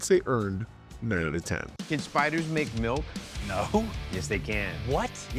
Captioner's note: laughs